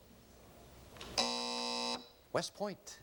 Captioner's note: buzzer